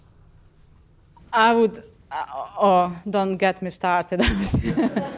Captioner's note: laughs